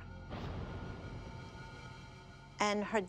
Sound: thunder

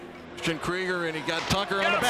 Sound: crowd cheers

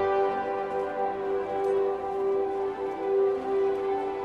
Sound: cheering

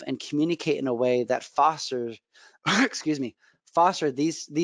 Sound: clears throat

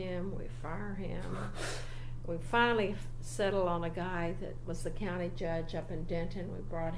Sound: laughs briefly

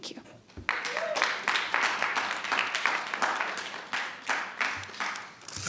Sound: attendees applauding

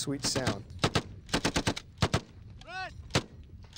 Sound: rapid gunfire

